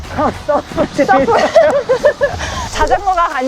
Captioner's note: laughter